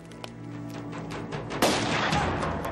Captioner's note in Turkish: Silah sesi